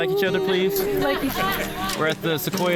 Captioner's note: woman laughing